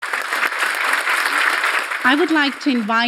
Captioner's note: audience applauding